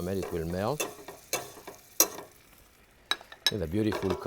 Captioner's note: butter sizzling; knife tapping